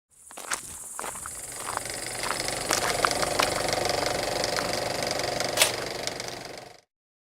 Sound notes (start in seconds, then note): 1.4 film strip running